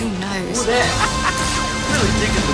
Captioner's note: laughing